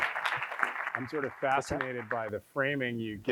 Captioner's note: audience applauding